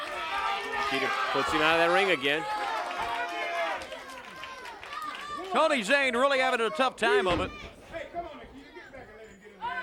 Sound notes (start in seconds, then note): 4.3 crowd chatter; 6.7 crowd cheering; 8.9 crowd chatter